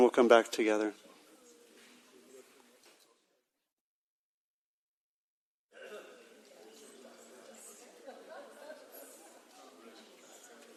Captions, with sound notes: And then we'll come back together. (audience murmuring)